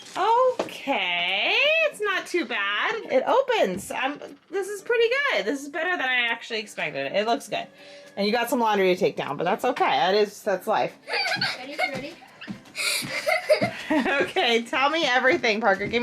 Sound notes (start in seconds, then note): 11.0 laughing excitedly